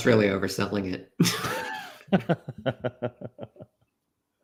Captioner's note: laughs